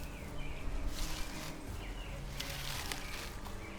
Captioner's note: bushes rustle; suspenseful music